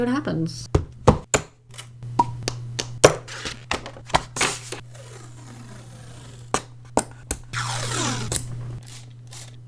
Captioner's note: beautiful supply noises